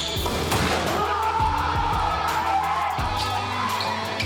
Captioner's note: upbeat music; boys cheering; upbeat music